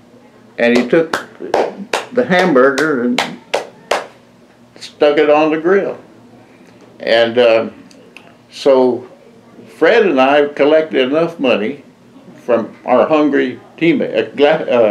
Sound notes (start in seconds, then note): 0.7 mimics slapping sound of making hamburger patty